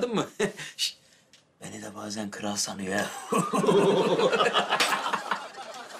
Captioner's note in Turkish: Gülme sesleri